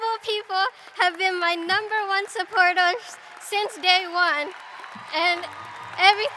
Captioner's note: cheering